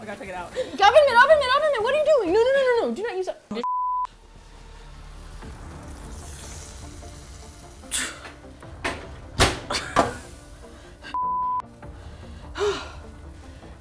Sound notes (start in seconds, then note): 4.0 intense music; 8.0 sighs